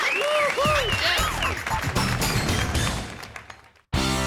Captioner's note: cheering; upbeat pop music